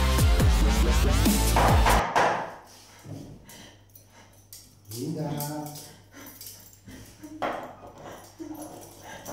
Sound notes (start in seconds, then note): 1.5 knocks